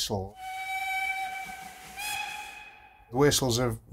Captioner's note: whistle sound